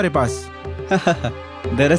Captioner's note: chuckles